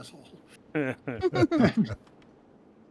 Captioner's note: laughter